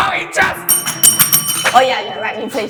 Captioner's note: aggresive bell-dinging